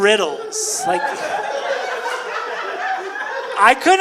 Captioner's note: audience laughing